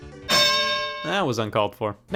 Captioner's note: bell chimes